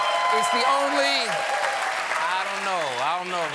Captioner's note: applause